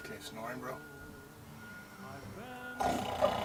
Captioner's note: louder snoring by Director